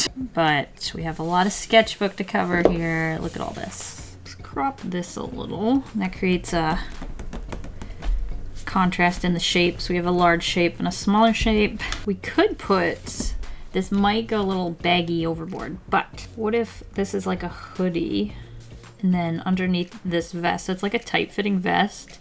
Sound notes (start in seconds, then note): 6.7 fingers tapping on sketchbook